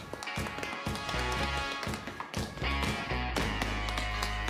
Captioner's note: tap-dancing continues